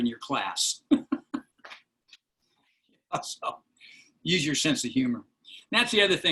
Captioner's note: laughter